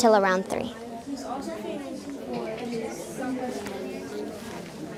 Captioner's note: students chattering